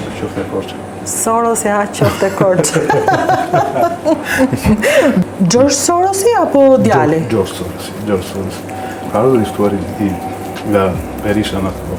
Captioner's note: laughs